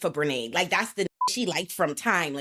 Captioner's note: beep